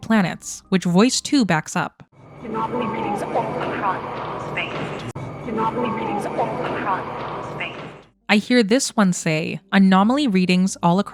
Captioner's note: voice 2 playing